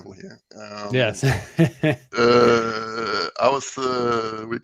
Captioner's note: laughs